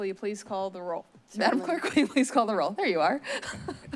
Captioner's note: chuckles